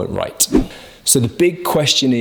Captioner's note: air whooshes